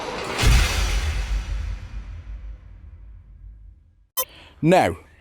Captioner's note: sound FX